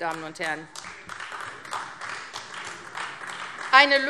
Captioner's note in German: Beifall AfD